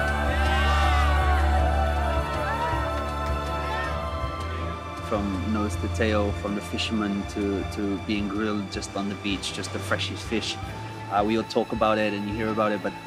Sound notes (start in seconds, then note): 0.0 boaters applause